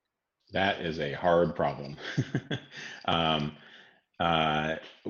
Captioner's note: laughs